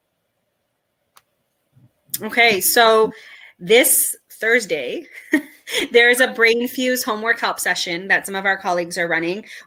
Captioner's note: chuckle